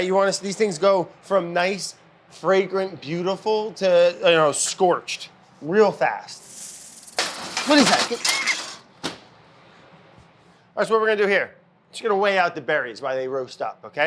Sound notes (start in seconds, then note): 6.4 rattle snake slither; 6.5 pan clanking